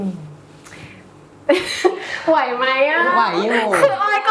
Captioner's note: laughs